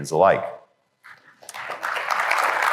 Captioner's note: applause